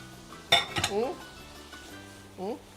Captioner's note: sizzles